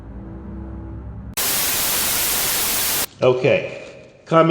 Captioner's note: static hisses